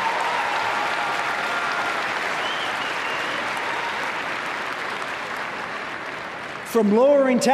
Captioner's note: applause